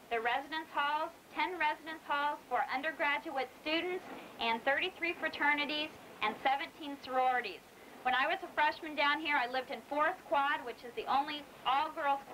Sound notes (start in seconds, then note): none